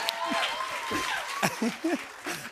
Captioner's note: cheering; laughs